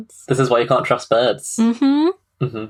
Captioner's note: laughing